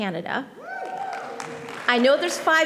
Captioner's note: audience applauding